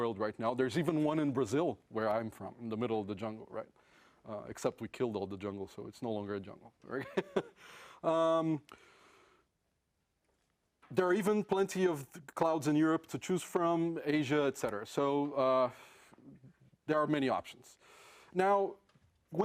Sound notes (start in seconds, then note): 7.6 laugh